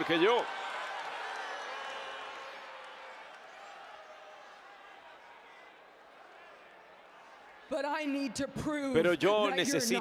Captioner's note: applause